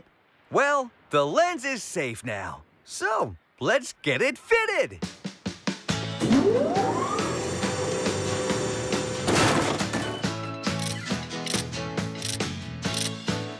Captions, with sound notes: WELL, THE LENS IS SAFE NOW, SO LET'S GET IT FITTED. ( Hydraulic Whirring ) ( Clunk! ) ( Ratchet Clicking )